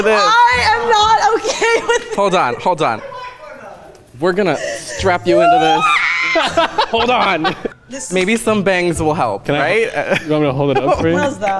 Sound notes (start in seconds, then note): 4.4 laughs; 5.2 screams